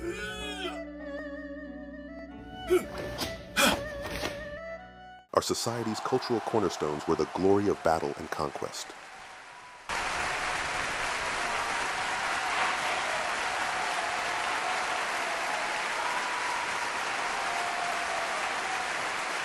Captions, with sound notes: Our society's cultural cornerstones were the glory of battle and conquest. [Applause]